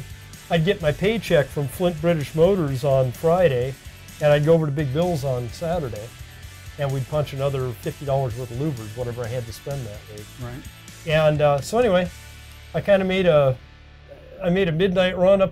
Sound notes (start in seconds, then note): none